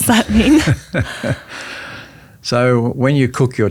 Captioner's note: laughs